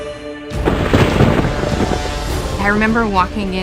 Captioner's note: thunder rumbling